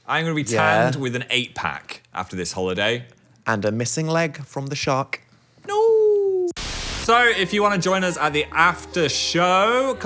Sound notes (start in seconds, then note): 6.6 static buzzing